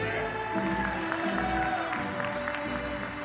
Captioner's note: applause